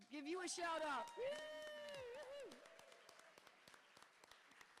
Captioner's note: cheering